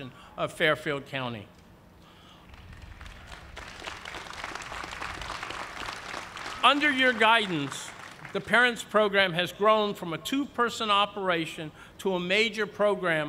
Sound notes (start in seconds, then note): 2.5 cheers and applause